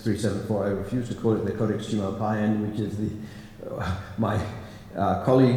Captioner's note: non-english